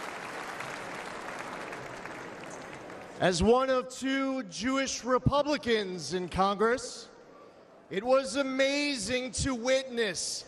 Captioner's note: applause